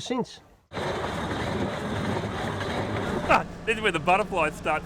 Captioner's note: railway sounds